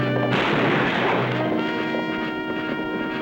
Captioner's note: gunfire